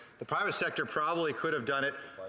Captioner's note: off mic